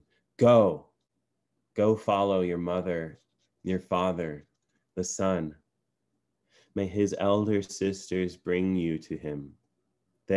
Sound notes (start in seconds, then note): none